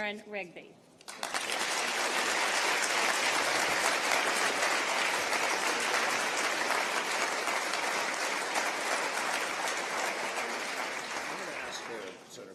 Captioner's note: applause